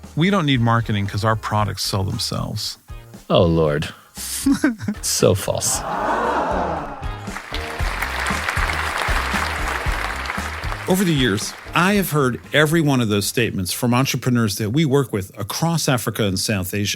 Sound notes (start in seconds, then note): 5.6 laugh; 7.0 applause